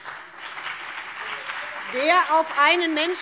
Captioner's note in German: Beifall BÜNDNIS 90/DIE GRÜNEN und CDU